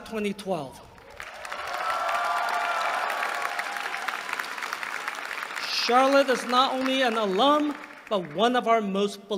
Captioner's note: applause